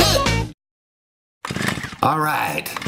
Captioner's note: chainsaw starting